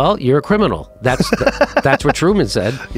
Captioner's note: man laughs